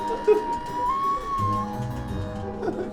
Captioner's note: both wailing